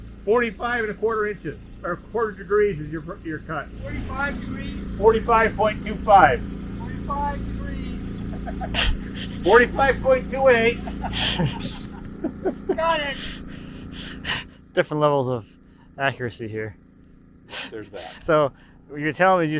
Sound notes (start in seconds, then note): 7.5 laughs; 11.0 laughs